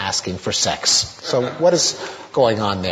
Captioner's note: audience laughter